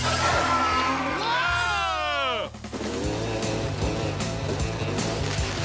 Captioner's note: both screaming; roaring